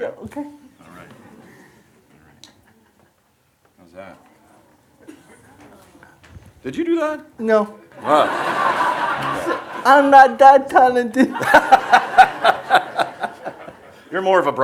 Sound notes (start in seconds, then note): 8.0 audience laughs; 11.2 laughs